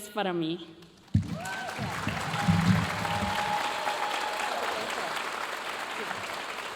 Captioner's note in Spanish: aplausos y vítores de la audiencia